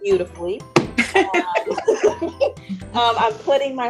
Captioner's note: group laughing